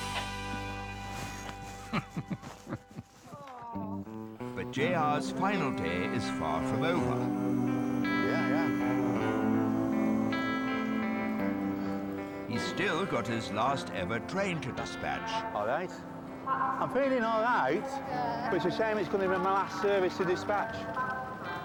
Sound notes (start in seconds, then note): 1.2 chuckling; 8.3 melancholic music